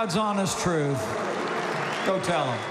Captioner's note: applause